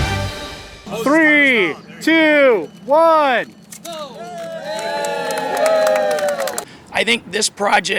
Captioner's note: crowd Noise